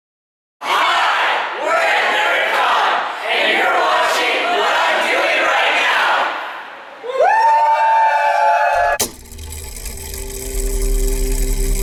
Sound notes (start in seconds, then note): 1.6 shouting; 7.1 group Cheers; 8.8 mechanism whirring